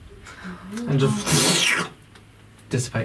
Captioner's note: squelching noise